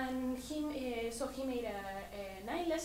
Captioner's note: none